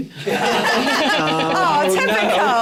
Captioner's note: laughter